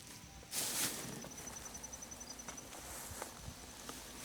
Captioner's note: rustling